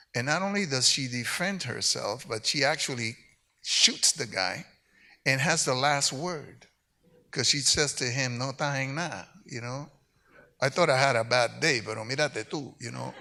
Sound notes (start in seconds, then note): 9.1 speaks in Spanish; 12.1 speaks in Spanish